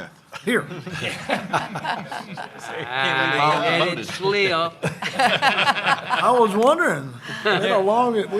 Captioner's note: laughter